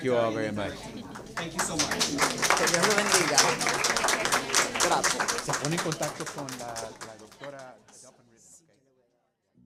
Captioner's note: applause